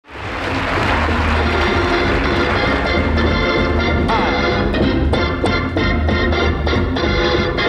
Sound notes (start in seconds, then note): 0.0 audience applauds; 0.2 bright music